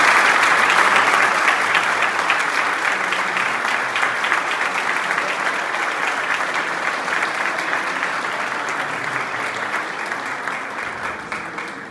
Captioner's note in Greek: χειροκρότημα